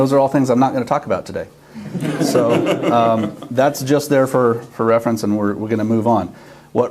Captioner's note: laughs